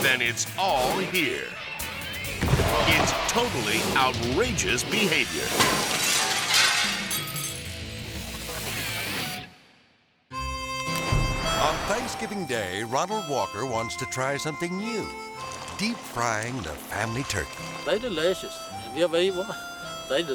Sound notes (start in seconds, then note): 2.8 body thudding; 5.2 glass shattering; 5.7 energizing music; 10.4 melodic music; 15.3 oil sizzling